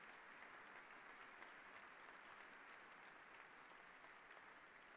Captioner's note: applause